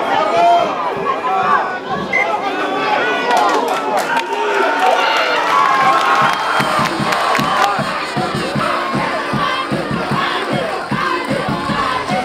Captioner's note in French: cris de joie sur le terrain et en tribune